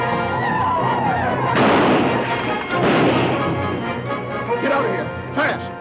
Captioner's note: native Americans howl; guns fire